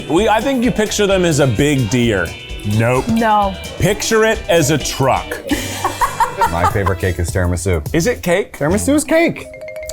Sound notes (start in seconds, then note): 5.4 laughing